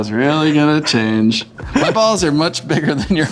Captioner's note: laughs